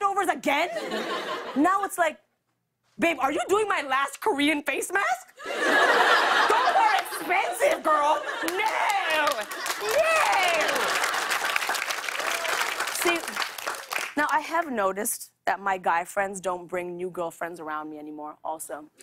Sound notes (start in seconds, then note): 5.4 laughter; 10.7 laughter and applause